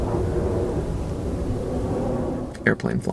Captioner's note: airplane noises